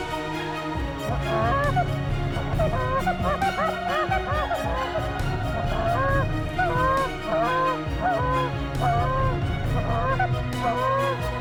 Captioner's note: goose calls